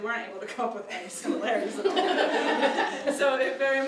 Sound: laughs

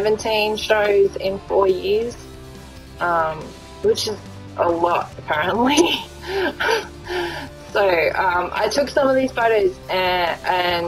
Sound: laughs

